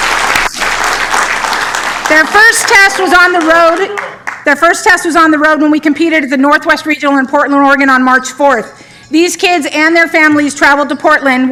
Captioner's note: applause